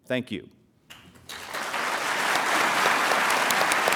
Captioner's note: applause